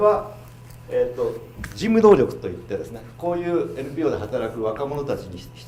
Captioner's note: speaking foreign language